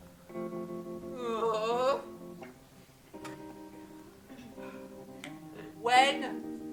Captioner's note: sad music; storyteller moans